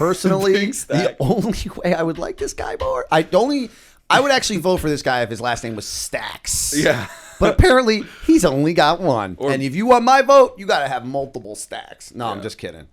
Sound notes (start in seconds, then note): 0.8 chuckle; 6.8 chuckle